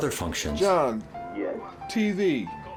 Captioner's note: computer voice